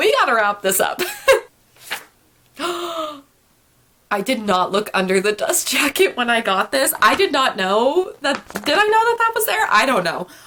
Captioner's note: gasp